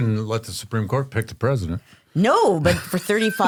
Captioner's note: laughs